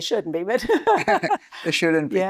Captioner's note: laughing